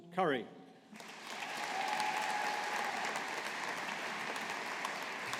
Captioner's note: audience applauding